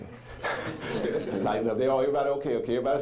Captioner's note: audience laughing